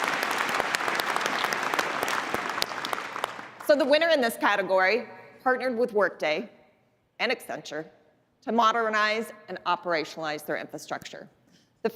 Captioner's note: applause